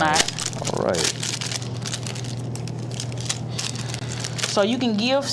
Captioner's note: wrapper scrunching